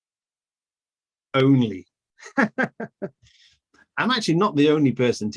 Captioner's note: laughs